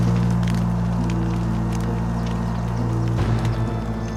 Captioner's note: flames crackle